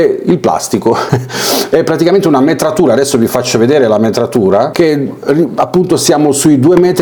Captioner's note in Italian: risate